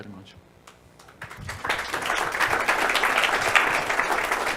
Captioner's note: audience applauds